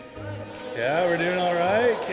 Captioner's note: applause